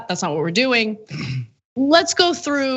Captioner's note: cough